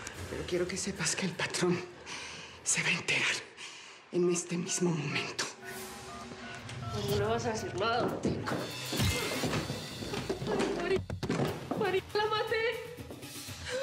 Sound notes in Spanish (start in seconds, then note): 10.2 ruido al caer